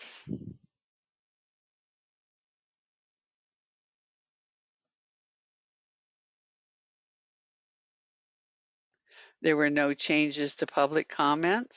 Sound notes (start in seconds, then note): 1.4 9 seconds pause